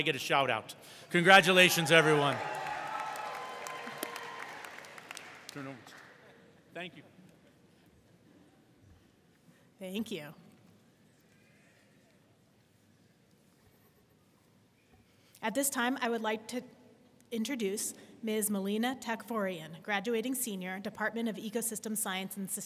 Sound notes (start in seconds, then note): 1.2 audience cheering and applauding